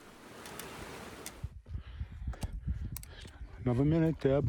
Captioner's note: heavy breathing